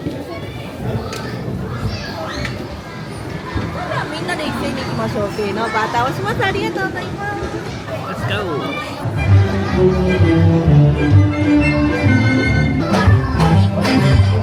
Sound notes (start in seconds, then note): 3.6 guests speaking Japanese; 9.1 light orchestral music